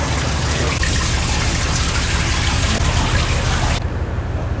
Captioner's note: water dripping